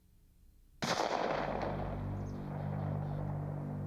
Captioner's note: gun firing